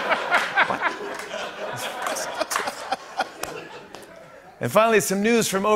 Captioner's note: laughter